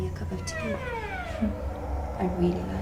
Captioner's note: laughs